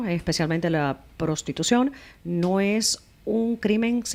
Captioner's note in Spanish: Hablando ingl\s